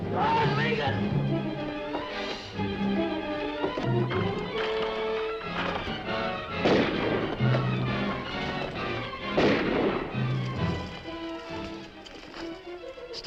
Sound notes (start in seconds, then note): 1.8 dramatic music; 6.2 gun firing; 10.4 dramatic music